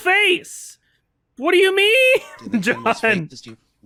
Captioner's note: laughs